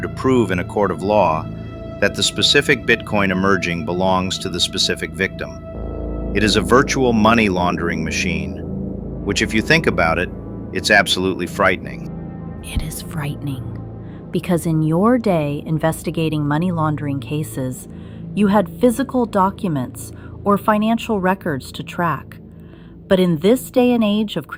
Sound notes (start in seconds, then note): 12.5 whispers